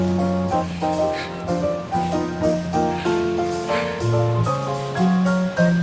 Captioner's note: soft Music Playing; laughing